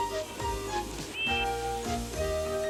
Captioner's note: toot